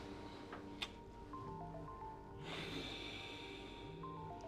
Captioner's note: cellphone rings; sighs